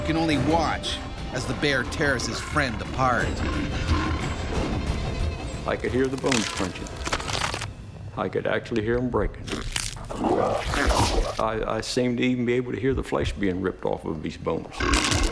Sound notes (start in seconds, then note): 2.7 bear growling; 6.1 bones crunching; 9.9 bear growling; 14.7 bear growling; 15.1 yelling